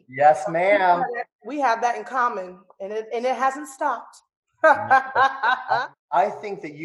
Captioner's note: laughs